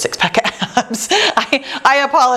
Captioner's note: laughs